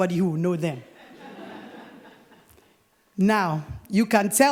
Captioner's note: laughter